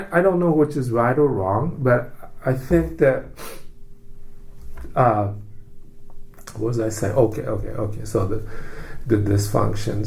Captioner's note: sniffs